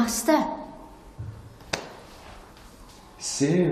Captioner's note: thudding sound